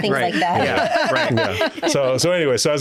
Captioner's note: laughing